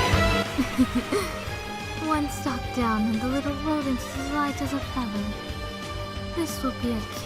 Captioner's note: chuckle